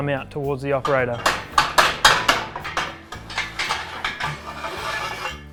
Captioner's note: metal clattering